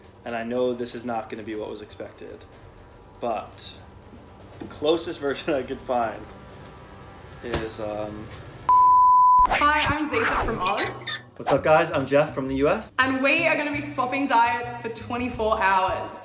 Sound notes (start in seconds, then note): 8.7 beep